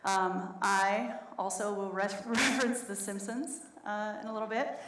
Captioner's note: laughs